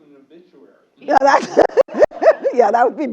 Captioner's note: laugh